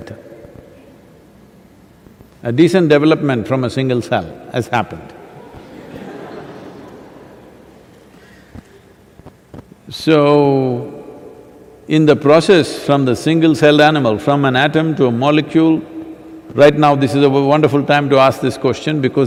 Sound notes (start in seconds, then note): 8.3 laughter